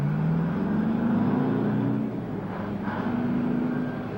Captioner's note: truck engine whirring